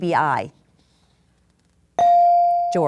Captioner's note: bell dings